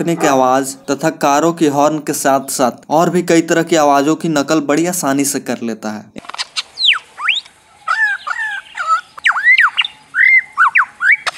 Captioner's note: Bird sound